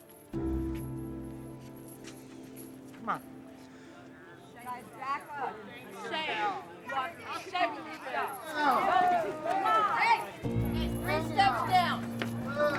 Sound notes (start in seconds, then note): 8.7 people chattering